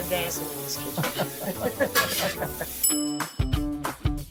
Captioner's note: both laugh; rock music begins